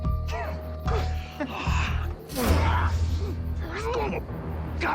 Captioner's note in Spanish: Quejidos